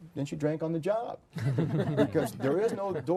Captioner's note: group laughter